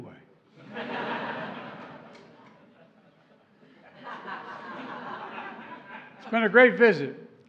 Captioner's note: laughter